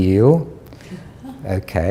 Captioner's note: chuckle